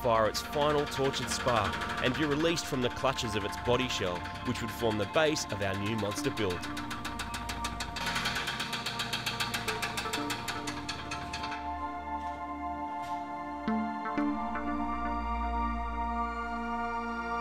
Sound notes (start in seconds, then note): 11.6 engine stops